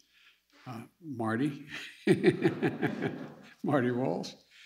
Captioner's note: laughs